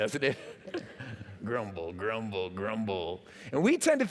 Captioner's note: laughter